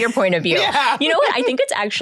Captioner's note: laughs